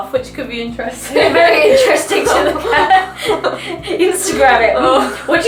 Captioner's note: both laugh